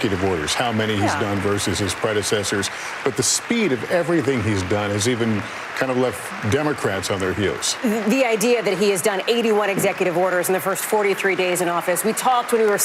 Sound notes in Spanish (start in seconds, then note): 0.0 aplausos